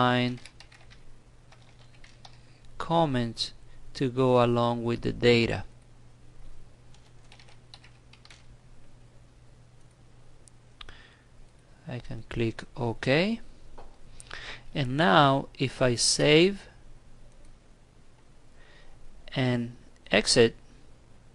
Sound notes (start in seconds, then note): 6.9 typing